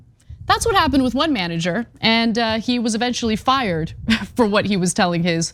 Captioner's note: laugh